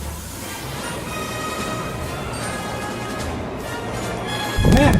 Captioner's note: monster growling; monster running